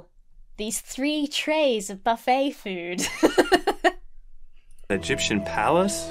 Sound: laughs

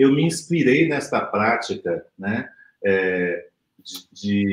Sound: speaks portuguese

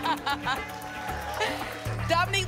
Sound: laughter

